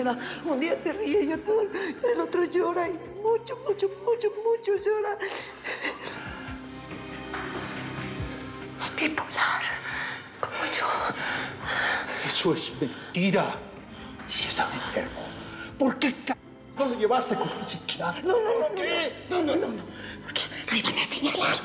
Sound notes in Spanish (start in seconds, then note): 8.7 susurra; 10.6 solloza; 21.4 susurra